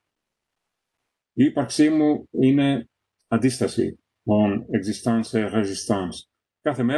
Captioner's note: reads it in french